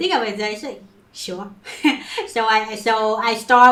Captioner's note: chuckles